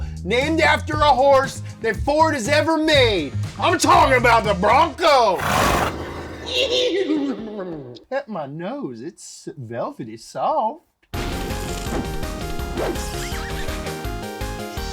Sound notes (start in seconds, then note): 5.3 neighing; 11.2 upbeat digital music